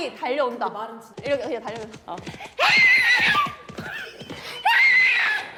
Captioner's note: clip-clop